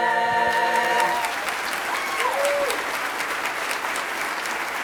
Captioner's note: applauding